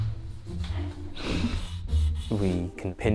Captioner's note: laughs; marker rasping